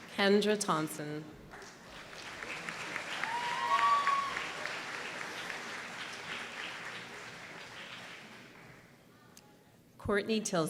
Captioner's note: applause